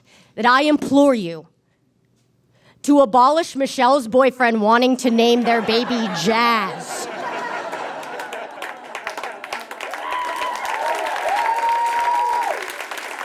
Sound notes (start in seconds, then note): 7.0 audience laughs; 7.2 scattered applause; 9.1 scattered cheering; 9.5 applause intensifies